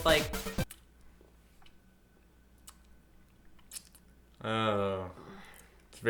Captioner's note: chewing sounds